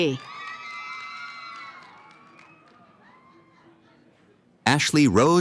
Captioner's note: cheering & applause